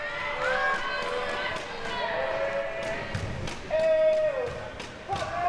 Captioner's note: audience chattering and yelling